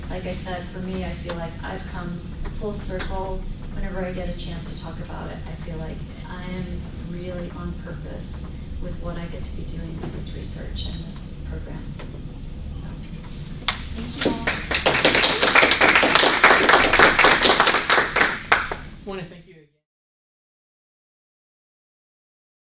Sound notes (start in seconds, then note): 14.1 applause